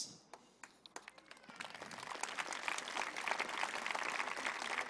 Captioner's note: applause